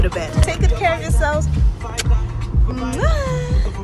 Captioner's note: mwah